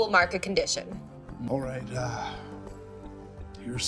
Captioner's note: groaning